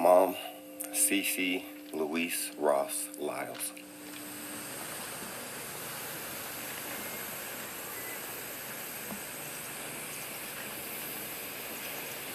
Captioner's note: sound of bell ringing